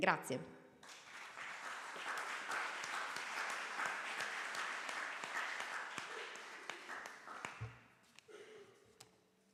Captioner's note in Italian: Applauso